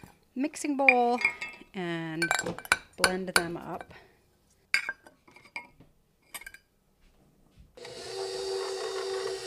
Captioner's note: blending sounds